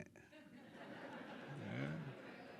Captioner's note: audience laughing